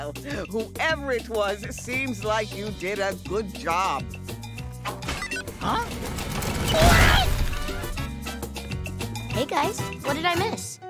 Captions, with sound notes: Well, whoever it was, seems like you did a good job. [beeping] Huh? [shrieking] Hey, guys. What did I miss?